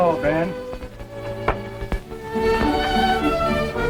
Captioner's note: door clunking; sentimental orchestral music continues